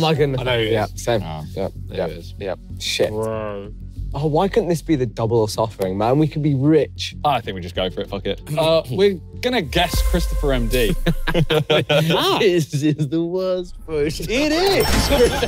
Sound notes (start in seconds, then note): 10.8 everyone laughing